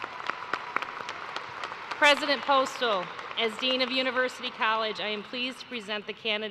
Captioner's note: cheers and applause